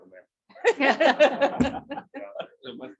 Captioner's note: laughter